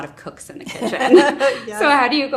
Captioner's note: laughs